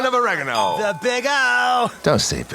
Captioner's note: ding!